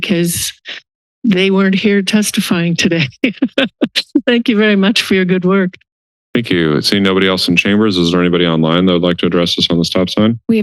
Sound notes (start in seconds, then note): 3.0 laughter